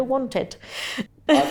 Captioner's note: laughs